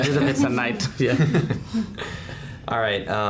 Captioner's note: laughing